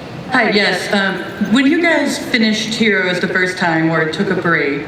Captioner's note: voiceover